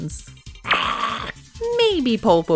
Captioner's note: makes a demonic sound